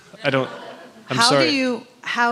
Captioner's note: chuckles; laughter